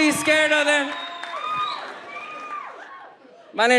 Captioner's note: audience yells